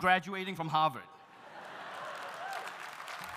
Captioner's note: audience laughs; audience cheering; audience applauding